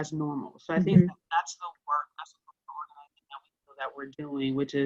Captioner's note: speaking off mic